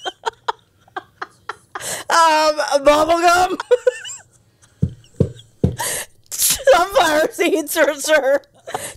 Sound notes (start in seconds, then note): 0.0 panel laughing; 3.4 laughing